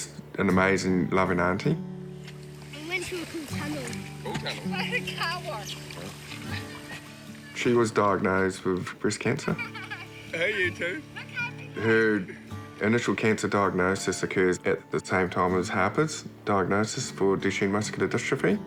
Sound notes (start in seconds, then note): 6.3 chuckles; 9.3 laughter